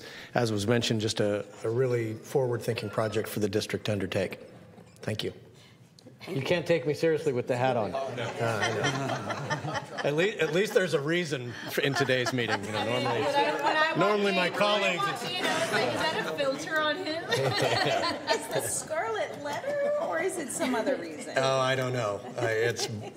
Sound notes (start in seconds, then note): 12.8 laughter